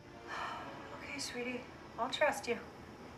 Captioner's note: sighing